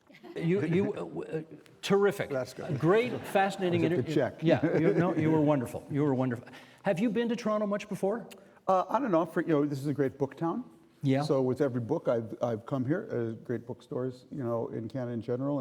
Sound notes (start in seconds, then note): 4.4 laughing